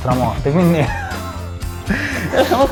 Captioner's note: laugh